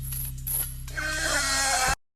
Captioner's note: grunting